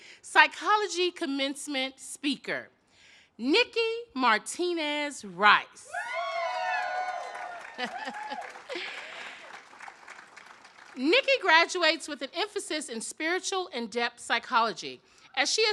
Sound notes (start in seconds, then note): 5.9 audience cheers; 7.7 laughs